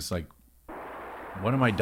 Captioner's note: rocket roaring